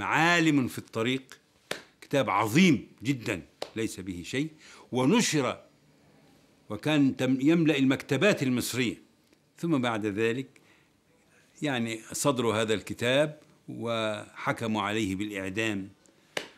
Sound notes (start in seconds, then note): none